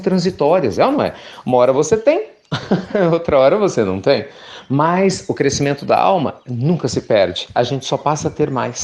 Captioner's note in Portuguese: Risos